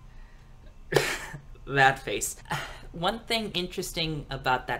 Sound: laughs

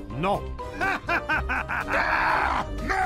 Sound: laughing

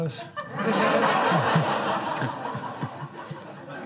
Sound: audience laughs

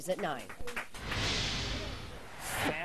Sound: air whooshing

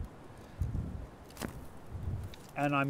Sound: loppers snip

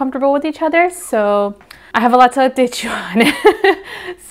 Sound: awkward laugh

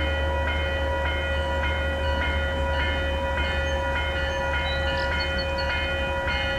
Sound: bell

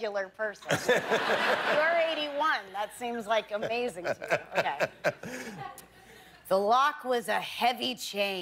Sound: laughter

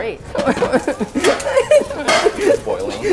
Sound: nervous laughing

